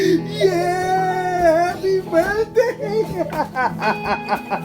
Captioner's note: laughing